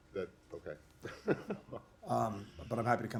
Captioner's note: laughter